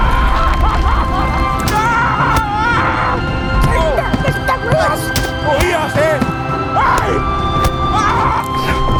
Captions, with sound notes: (SCREAMS) - Take that, Mr Reeus. - Hey! (SHOUTS)